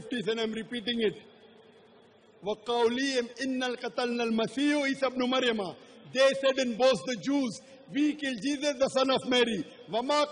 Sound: arabic jargon

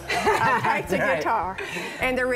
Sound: laughs

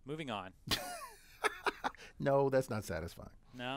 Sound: laugh

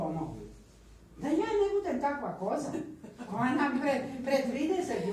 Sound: laughter

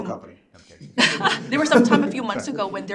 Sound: group chuckles

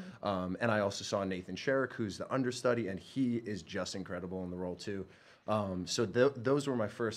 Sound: none

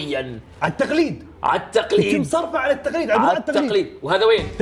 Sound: none

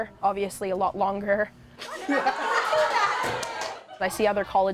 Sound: laughs

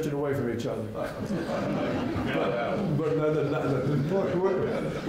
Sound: laughter breaks out in the audience

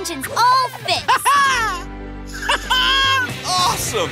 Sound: chuckles

